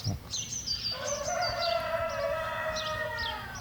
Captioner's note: birds chirping, rooster crowing